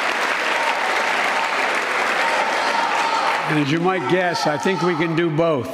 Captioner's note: clapping shouting 20 secos